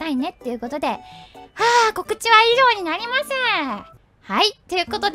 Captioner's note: sigh